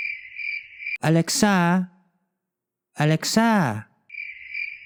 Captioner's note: Tagalog Accent